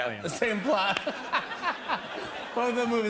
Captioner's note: laughter